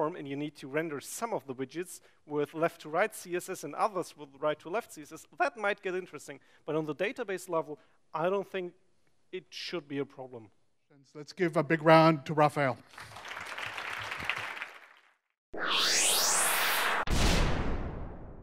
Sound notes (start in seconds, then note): 12.8 audience claps